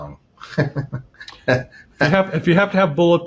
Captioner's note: laughing